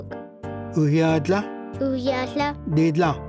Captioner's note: repeats sixth word in Cherokee